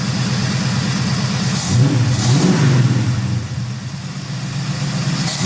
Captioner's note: engine revs